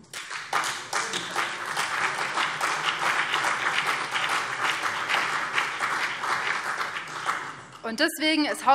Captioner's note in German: Beifall BÜNDNIS 90/DIE GRÜNEN und CDU